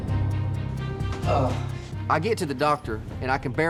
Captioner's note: groaning